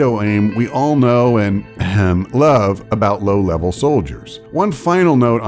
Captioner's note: ahem